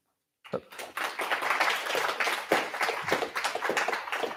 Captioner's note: applause